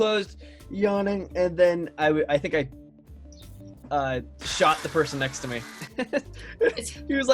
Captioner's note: chuckles